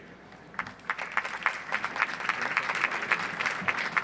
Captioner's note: audience applauds